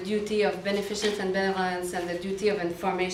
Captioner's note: speaks foreign language